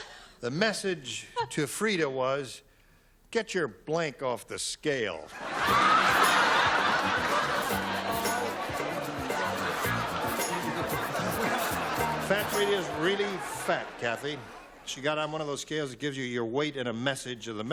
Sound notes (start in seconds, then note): 5.3 laughter